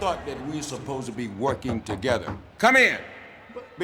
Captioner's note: knuckles rapping